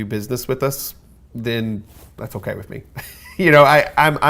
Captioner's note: laughs